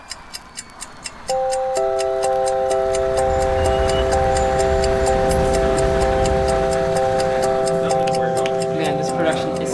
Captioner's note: clock ticking